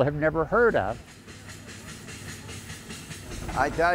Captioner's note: train clacking